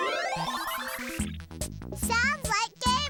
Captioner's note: electronic bleeping